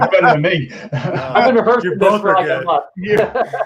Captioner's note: all laughing